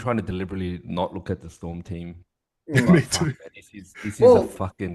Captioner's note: laughs